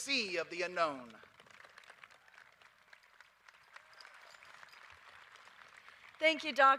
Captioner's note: applause